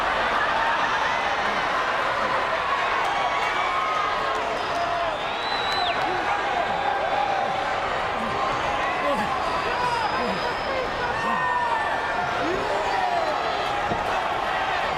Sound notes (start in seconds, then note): 1.3 crowd gasps; 9.9 Shawn groaning